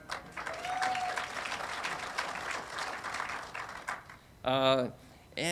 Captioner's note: audience applauding and cheering